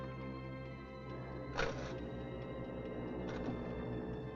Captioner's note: foghorn Blows